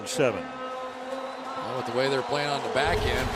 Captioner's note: pa announcement